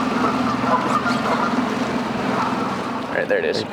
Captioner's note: geese honking